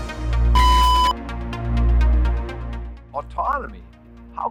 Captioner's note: beeping